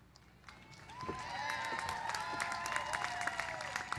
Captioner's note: applause